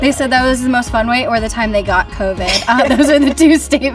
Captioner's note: chuckles